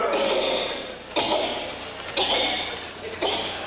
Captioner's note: coughing